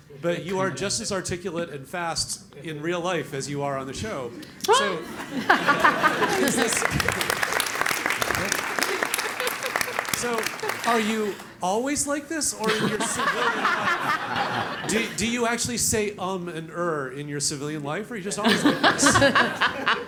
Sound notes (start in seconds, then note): 4.6 laugh; 7.9 applause; 12.6 laugh; 18.4 laugh